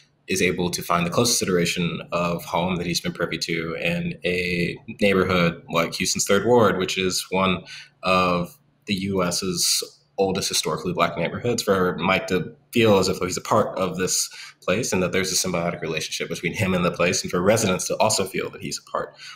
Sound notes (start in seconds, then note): none